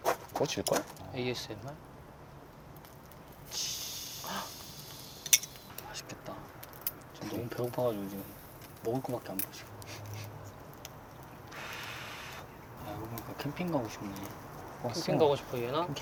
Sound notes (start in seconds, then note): 3.4 sizzle